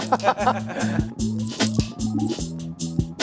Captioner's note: laugh